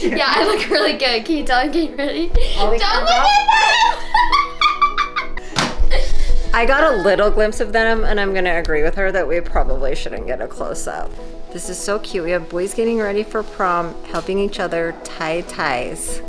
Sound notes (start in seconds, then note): 2.3 shouting and laughing